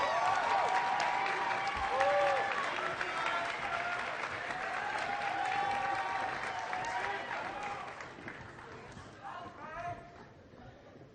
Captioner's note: applause